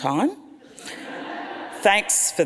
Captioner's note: audience laughs